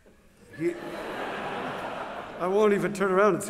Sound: laughter

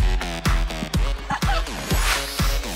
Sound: chuckles

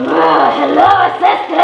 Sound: growling

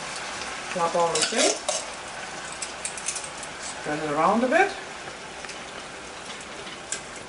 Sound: stiring the dish

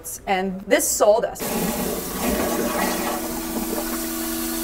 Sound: toilet flushing

